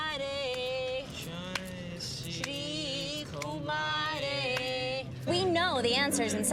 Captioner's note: 紧张地重复; repeats Nervously